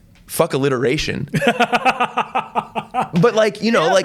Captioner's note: laughs